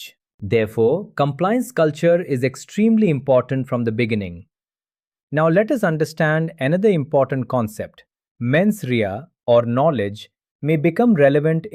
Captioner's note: thoughtful